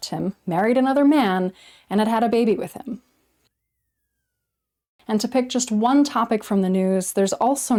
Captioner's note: whistle